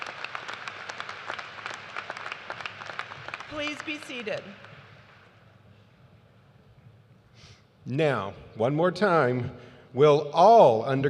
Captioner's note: cheers and applause